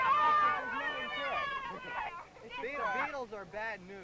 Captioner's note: loud cheering